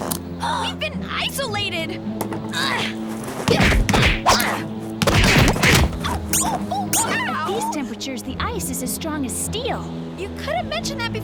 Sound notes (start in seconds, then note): 3.5 gasping; 5.2 whimpering